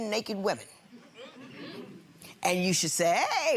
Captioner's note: audience murmuring